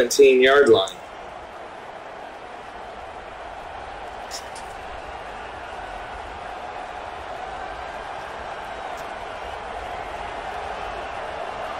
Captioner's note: crowd cheering